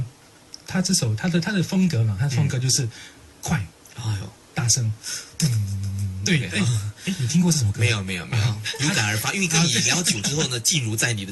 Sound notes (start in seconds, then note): 5.4 hums